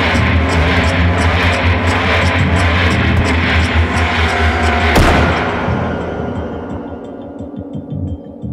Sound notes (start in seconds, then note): 4.9 shot firing; 6.0 tense music